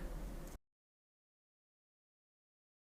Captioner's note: silence